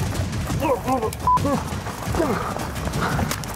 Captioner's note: struggling